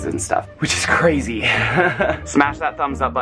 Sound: laughs

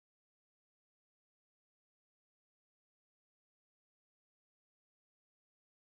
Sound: none

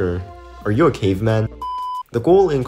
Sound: beep

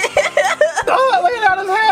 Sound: assistant laughing

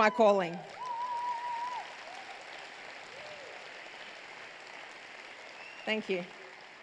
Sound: cheers

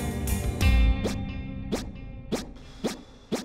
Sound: phone swishes

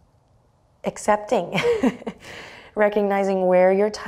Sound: chuckles

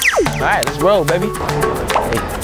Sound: laser fire; bubble pop

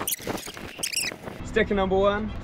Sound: VHS tape squeaking sound effect

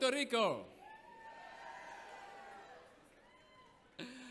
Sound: audience cheers

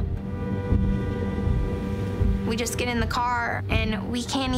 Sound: horn honking

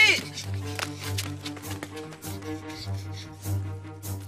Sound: panting; thrilling music playing

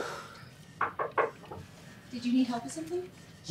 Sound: knocking

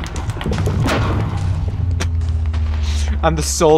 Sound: explosions

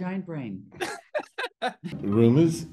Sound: laughs

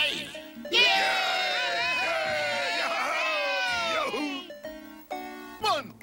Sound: cavemen cheer again

